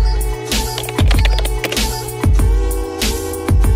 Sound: bright upbeat music; keyboard typing

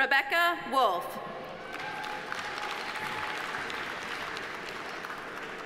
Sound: audience applauding

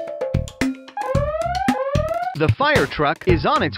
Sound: upbeat music; siren wailing

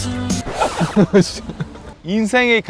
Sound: giggling

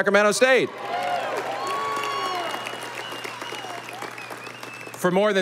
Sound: audience applauding

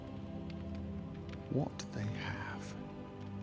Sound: whisper

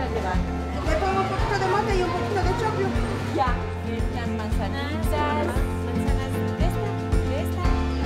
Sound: in Spanish

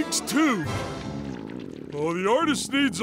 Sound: grumbling

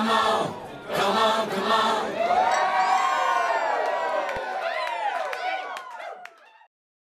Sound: everyone cheering

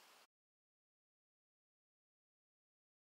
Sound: silence

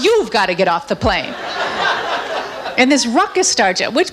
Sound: audience laughs

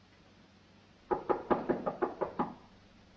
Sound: knocks on door

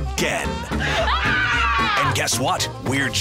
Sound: screaming

